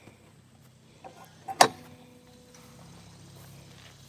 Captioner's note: gate closes